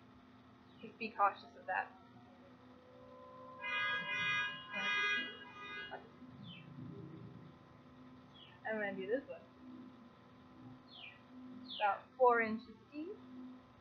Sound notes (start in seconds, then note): 3.5 car horn yelling